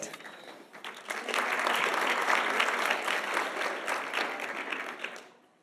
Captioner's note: audience applauding